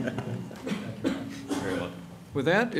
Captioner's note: laughter